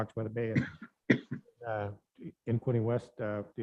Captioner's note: coughs